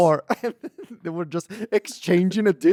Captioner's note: laughs